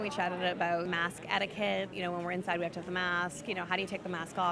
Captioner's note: crowd noise